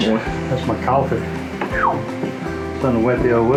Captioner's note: whistles